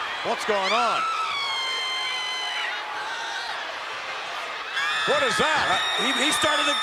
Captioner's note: applause